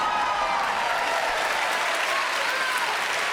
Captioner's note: cheers and applause